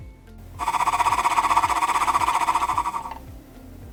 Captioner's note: sound of machine fluttering